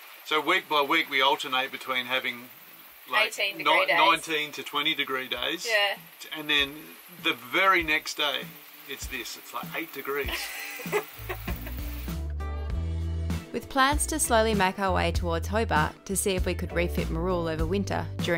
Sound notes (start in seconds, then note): 10.2 laughs; 11.8 soft rock music